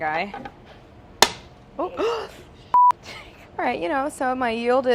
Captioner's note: gasping